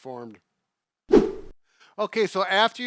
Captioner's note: whoosh